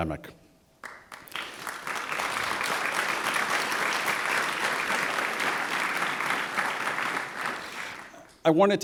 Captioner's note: applause